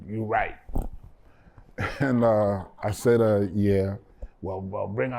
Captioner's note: laughter